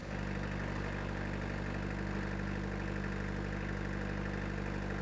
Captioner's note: engine rumbling